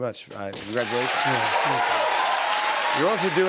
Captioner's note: cheers and applause